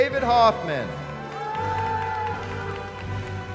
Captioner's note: cheering